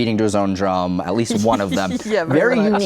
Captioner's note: laughs